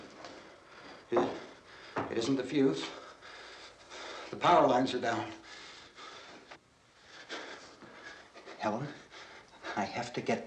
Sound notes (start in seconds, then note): 2.5 panting